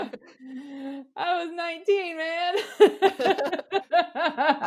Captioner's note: laughs